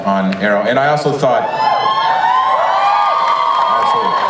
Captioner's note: audience cheers and applauds